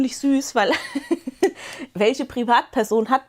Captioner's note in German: Gelächter